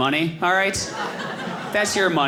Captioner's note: audience laughing